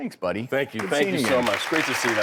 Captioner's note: audience clapping